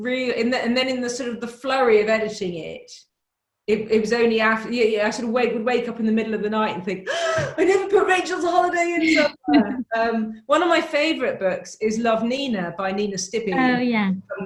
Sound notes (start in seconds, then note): 7.0 gasp; 10.3 laughs